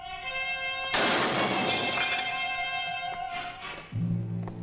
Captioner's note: table slams